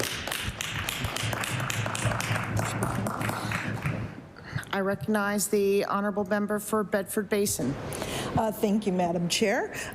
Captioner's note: applause